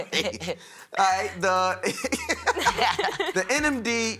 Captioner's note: laughs